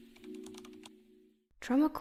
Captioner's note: typing sounds